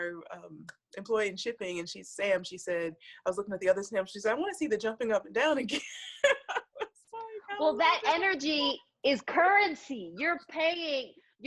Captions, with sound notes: Our employee in shipping and she's Sam, she said I was looking at the others side she's says I wanna see the jumping up and down again (laughs) - Well that energy is currency, you're paying